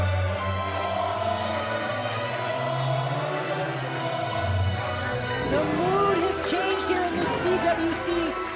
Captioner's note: crowd chants "walter"